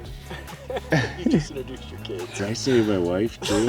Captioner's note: laughing